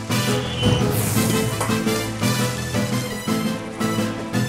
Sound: loud sizzling

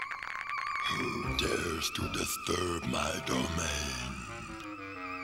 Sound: deep voice

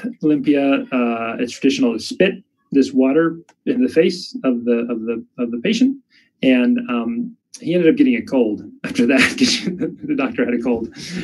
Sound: chuckles

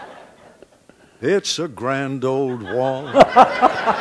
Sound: background laughter

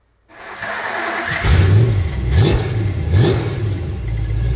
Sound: engine revving

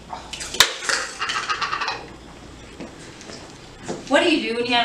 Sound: dish clattering

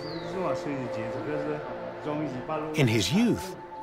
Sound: speaking Chinese dialect

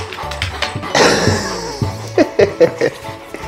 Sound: laughs

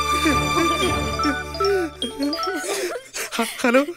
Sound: phone rings

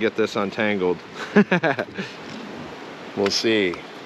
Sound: chuckling

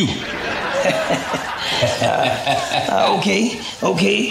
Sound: laughter

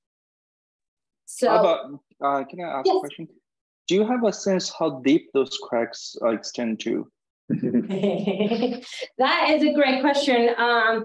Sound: chuckling

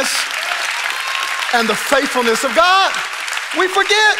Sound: congregation applauding

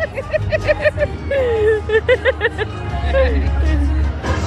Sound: laughing; upbeat music

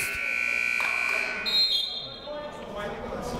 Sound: buzzer ringing; whistle blowing

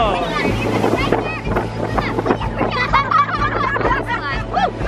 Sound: kids talking

